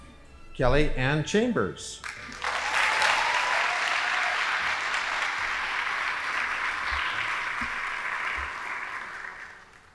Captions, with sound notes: Kelly Ann Chambers. (audience applauding)